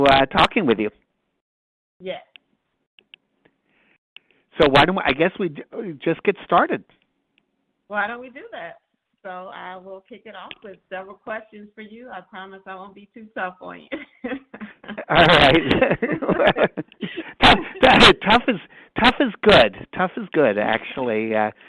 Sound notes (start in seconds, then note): 13.9 chuckling